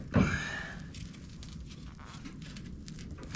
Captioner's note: snapping